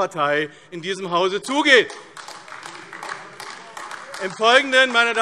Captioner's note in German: Beifall AfD - Widerspruch BÜNDNIS 90/DIE GRÜNEN